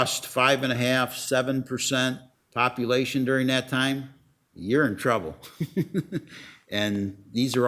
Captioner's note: laughs